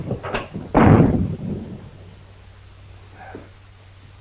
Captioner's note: door slams